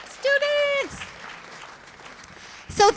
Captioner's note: applause